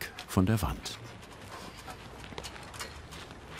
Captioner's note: metallic clatter